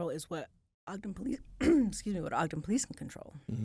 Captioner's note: coughs